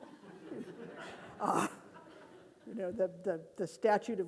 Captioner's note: audience laughing